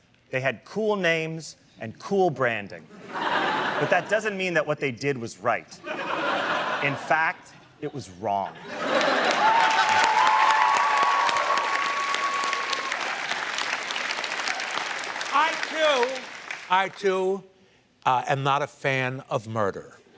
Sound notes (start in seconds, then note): 8.7 audience cheering and applauding